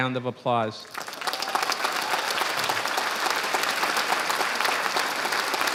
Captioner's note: audience applauding